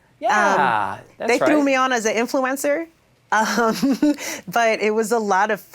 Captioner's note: chuckles